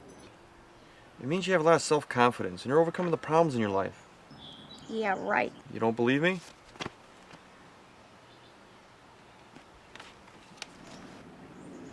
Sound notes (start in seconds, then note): none